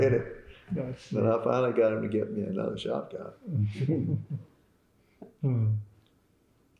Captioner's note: laughter